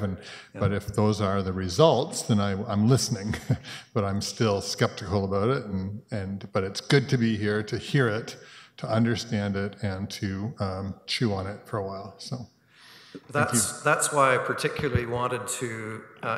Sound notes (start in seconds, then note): 0.0 chuckles; 3.1 chuckles